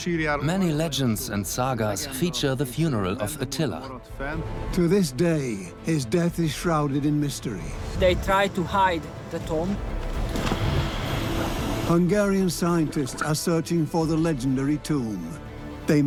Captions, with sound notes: Many legends and sagas feature the funeral of Attila. To this day, his death is shrouded in mystery. They tried to hide the tomb. (sound of moving slab) Hungarian scientists are searching for the legendary tomb.